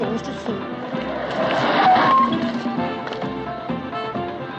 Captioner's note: tires screech